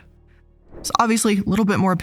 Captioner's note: air whooshes